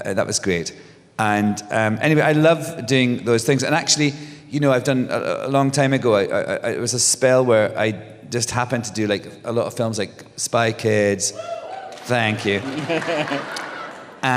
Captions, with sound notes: That was great. And anyway, I love doing those things. And actually, I've done - a long time ago it was a spell where I just happened to do, like, a lot of films like Spy Kids. [cheers] Thank you. [laughter]